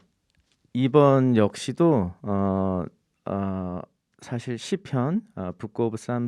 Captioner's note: speaking in Korean